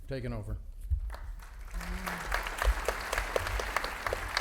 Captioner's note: audience applauding